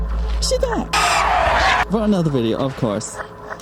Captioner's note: people screaming